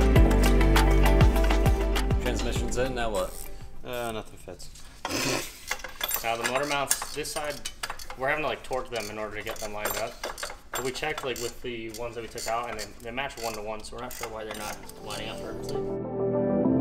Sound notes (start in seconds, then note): 5.1 snorts